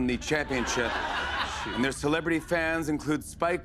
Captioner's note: laughter